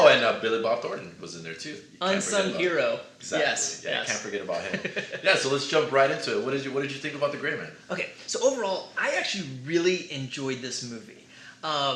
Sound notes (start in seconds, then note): 4.1 laughs